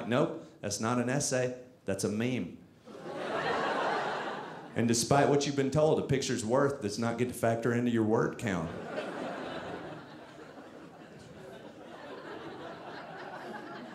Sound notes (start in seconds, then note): 2.9 audience laughing; 8.6 audience laughing